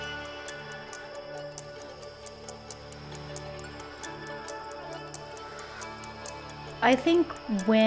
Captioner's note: breathing heavily